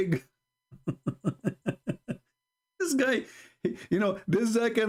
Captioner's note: Ketawa